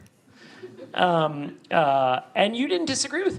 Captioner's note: audience laughs